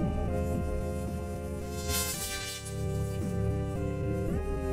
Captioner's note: electricity snaps